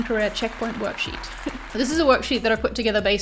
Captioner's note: audience applauding